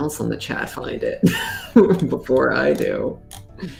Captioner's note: laughs